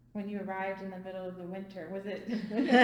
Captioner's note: all laugh